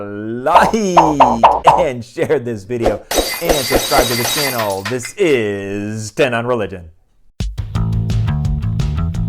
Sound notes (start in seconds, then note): 3.0 glass breaking